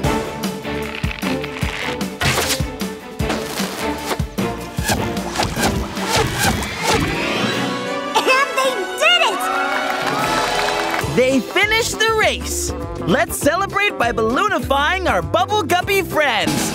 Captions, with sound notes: [whooshing] [thumping] And they did it! [cheering] They finished the race! Let's celebrate by balloonify our Bubble Guppy friends!